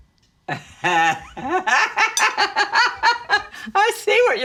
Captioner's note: mama laughs